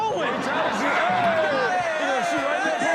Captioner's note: cheering